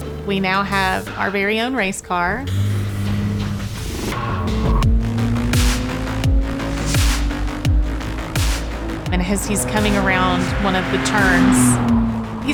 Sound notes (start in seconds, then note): 2.5 car engine purring